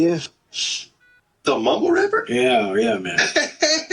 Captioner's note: heart monitor